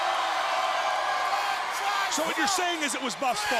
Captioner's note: crowd chattering